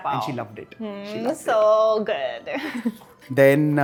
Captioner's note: chuckles